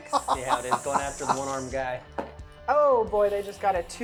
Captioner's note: laughing